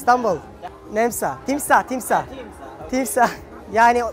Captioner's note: in Turkish language